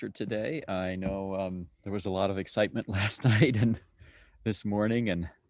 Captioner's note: laughs